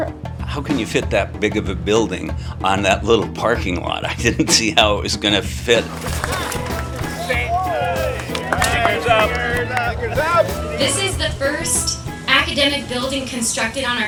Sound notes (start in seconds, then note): 5.8 applause